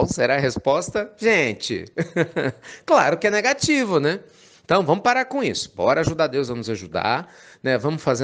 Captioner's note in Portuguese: Risos